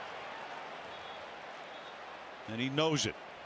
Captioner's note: whistle